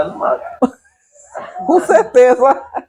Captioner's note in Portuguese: Risos